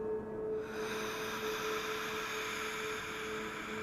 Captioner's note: deep breathing